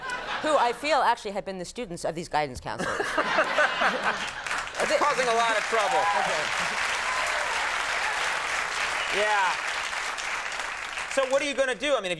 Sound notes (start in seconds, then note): 2.8 Conan and audience laughing; 6.5 audience applauding